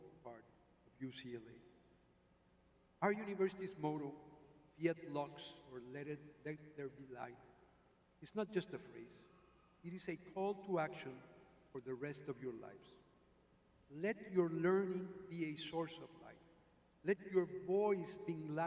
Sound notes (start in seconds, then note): none